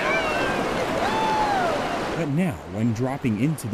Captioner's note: hollering